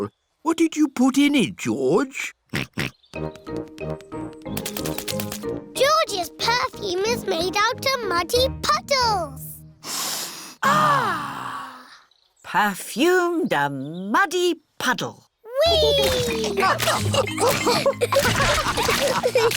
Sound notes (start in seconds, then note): 2.8 snorts; 9.8 all sniff